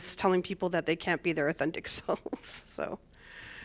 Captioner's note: laughter